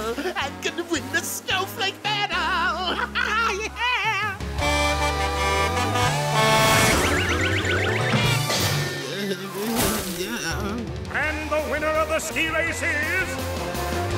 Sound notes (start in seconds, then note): 4.7 sudden melodical beeping; 9.0 moaning